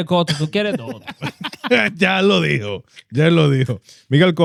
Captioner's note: speaking In Foreign Language